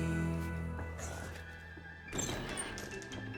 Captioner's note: door opens